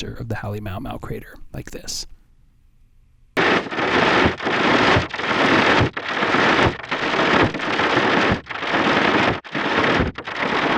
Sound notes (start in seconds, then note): 3.9 clacking noises